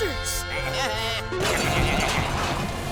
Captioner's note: bleating